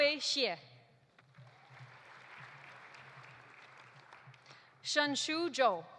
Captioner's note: audience applauding